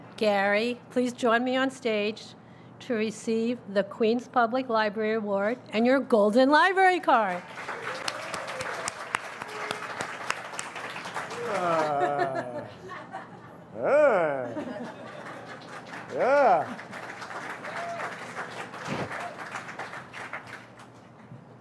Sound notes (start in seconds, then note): 7.4 audience applauds and cheers; 11.2 laughs; 14.6 audience cheers and applauds